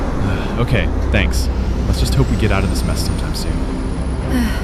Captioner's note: sighs